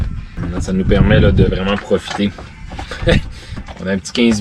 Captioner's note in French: rires